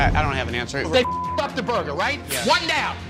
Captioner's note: beep